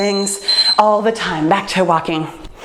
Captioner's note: timer beeps